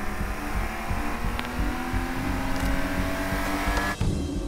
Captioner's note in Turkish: Araba sesi